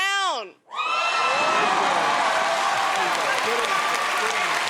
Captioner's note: cheers and applause